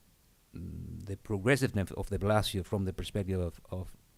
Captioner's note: murmurs